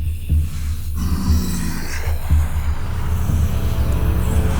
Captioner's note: growling